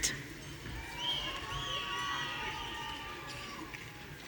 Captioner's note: audience cheering